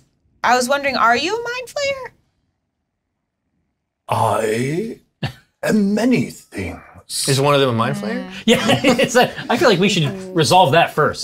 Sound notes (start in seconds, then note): 3.6 deep Voice